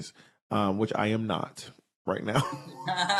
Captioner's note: chuckles